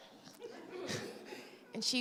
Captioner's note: laughter